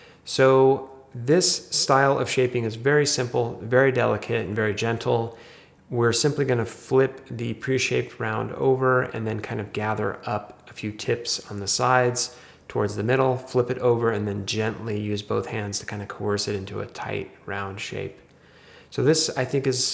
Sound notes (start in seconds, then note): none